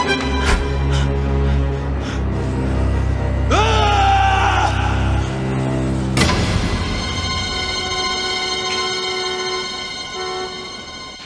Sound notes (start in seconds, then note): 1.0 Paul panting; 3.5 Paul screams